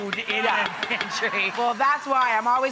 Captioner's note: audience laughing